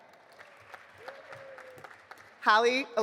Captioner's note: audience applauding